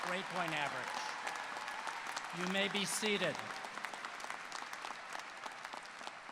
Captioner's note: applause